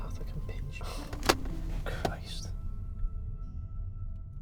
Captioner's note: he scoffs